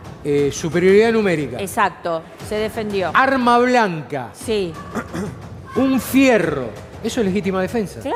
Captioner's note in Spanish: carraspeo